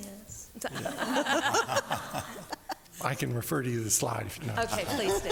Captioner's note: laughing